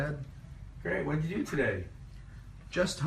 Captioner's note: voiceover